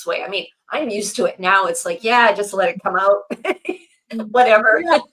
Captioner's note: laughs